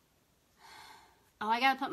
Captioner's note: sighs